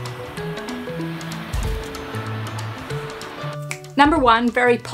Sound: waves crashing; gentle upbeat music

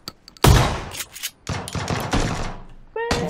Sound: distant gunfire

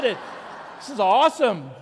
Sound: congregation laughing

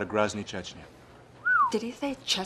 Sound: whistling

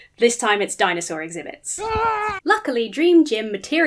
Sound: screaming

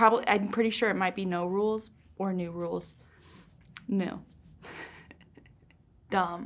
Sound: laughs

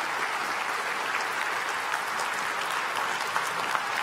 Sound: applause

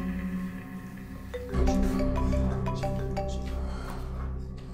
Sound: phone ringing

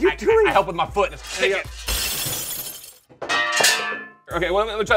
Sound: crashing noise

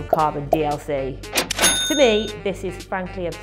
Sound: cash register kaching

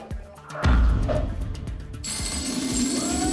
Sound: thump; coins jingling

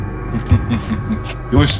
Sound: laughs

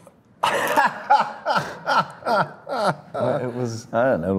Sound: Daniel and Drew laugh

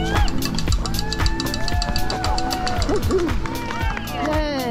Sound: crowd cheering and applauding

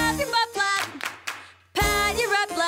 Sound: clap clap clap

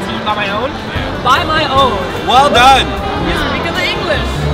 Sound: is sarcastic

